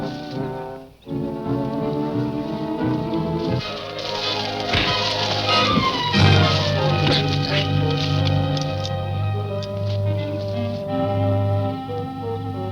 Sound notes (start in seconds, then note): 4.2 fists thudding; 4.3 dramatic music; 8.1 soft suspenseful music